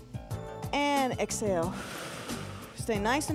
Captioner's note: breath hisses